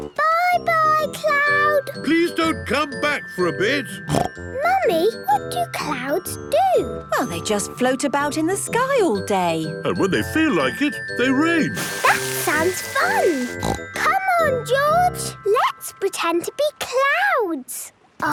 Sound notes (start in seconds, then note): 4.0 snorting; 12.9 snorting